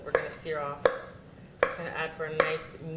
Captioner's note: cutting mushroom